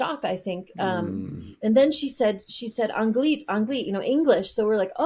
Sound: speaking foreign language

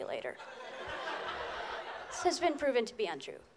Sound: laughter

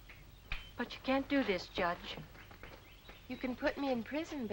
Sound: fingers snapping

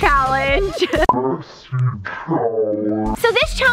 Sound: deep Voice

